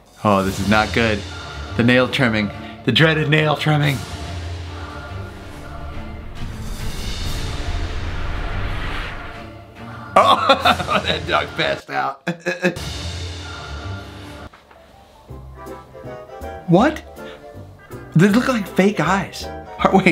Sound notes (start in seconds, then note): 4.4 dramatic suspenseful music; 10.2 laughing